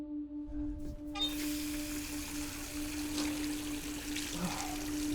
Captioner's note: dramatic music; water running